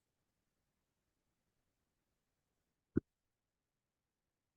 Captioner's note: no audio present